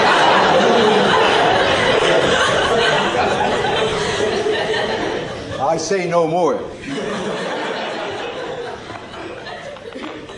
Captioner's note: laughter